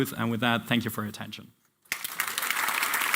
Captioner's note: applause